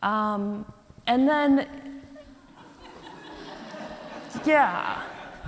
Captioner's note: audience laughs